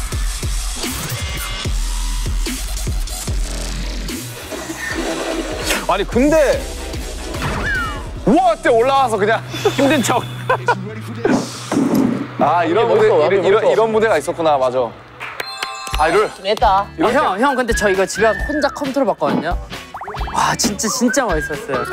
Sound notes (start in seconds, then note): 15.2 applause to cool ourselves